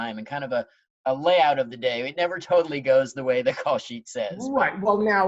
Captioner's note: none